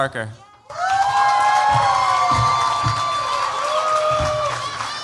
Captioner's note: cheers, applause